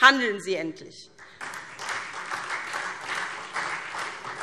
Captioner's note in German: Beifall SPD